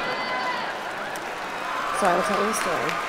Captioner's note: audience cheering